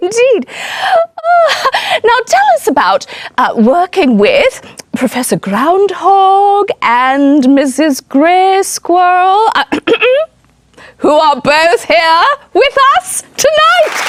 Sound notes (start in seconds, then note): 1.2 chuckles; 9.7 clears throat